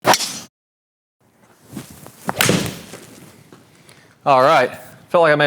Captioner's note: golf club whacks ball